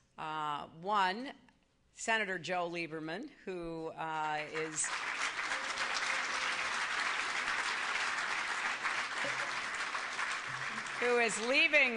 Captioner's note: applause